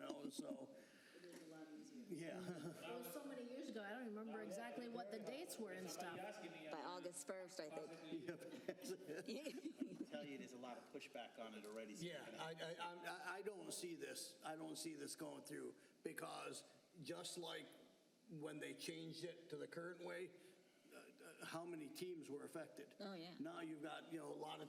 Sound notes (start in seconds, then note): 10.0 laughter